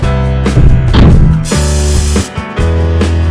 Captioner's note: spray Paint